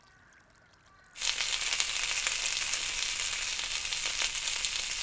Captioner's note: sausages sizzling